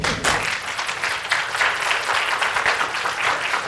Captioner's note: applause